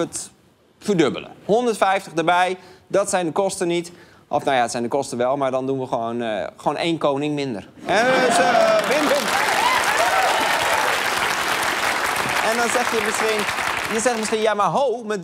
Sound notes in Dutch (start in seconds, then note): 11.1 applaus